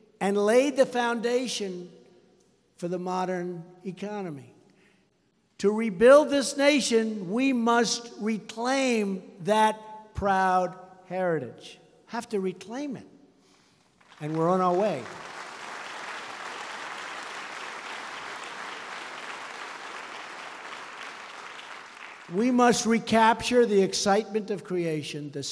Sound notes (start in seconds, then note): 13.9 applause